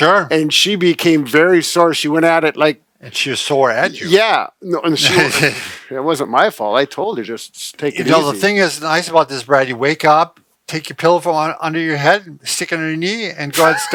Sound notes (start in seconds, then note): 5.0 chuckles